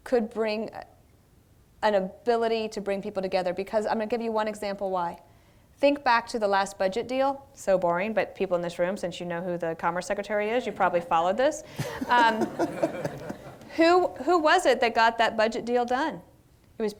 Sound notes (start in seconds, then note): 11.7 laughter